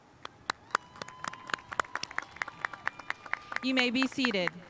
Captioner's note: spectators applauding